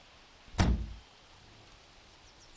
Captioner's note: car door latches